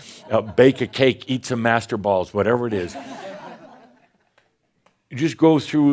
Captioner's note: some chuckles